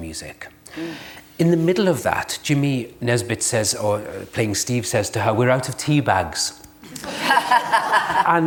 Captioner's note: laughter